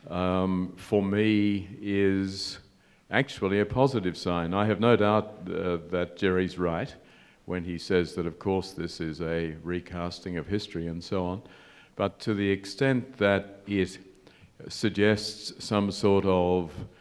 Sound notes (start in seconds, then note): none